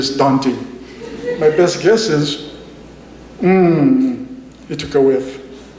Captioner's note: laughter